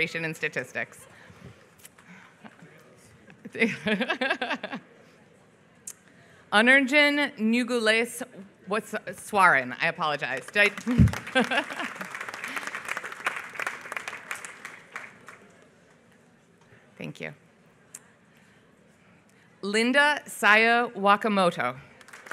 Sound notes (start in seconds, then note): 3.6 laughs; 10.8 laughs; 12.2 applause; 21.9 applause